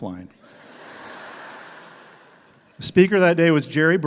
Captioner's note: audience laughing